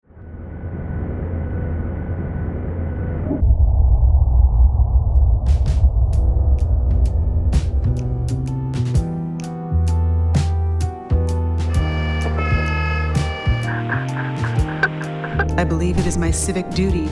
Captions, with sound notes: (low mechanical humming) (air whooshing) (somber jazz music) (siren wailing) (air whooshing) (somber jazz music) - I believe it is my civic duty